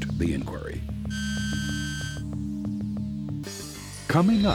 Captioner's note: scanner buzzing